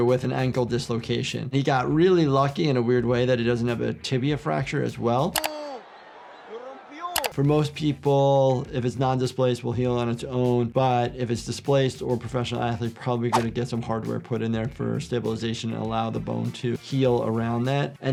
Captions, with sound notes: with an ankle dislocation. He got really lucky in a weird way that he doesn't have a tibia fracture as well. (keyboard clicking) (commentator speaking in foreign language) For most people, if it's non-displaced, will heal on its own, but if it's displaced, or a professional athlete, probably gonna get some hardware put in there for stabilization, and allow the bone to heal around that.